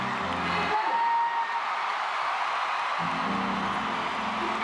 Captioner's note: cheering